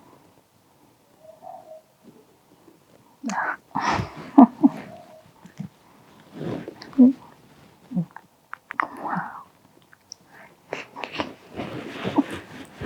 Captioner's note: la conversación telefónica continúa